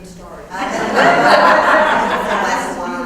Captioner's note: laugh